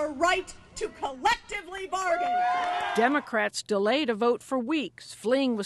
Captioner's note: cheering and applause